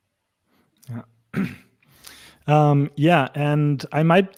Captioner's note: clears throat